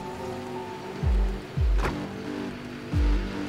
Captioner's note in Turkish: Araba motor sesi